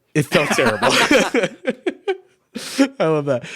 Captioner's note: both laugh